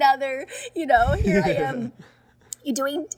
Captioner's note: Hyram and Alison laughing